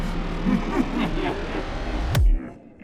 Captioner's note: evil Laughing